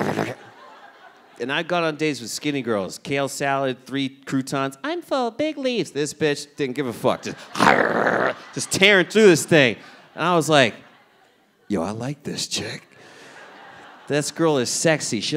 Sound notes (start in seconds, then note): 7.6 growls